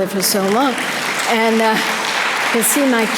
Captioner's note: audience applause